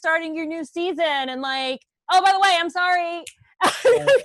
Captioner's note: laughs